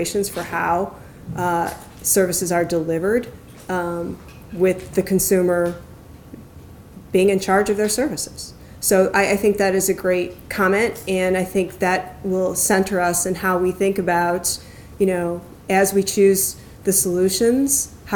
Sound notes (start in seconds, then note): none